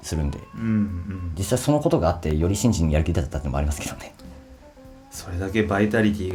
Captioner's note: laughs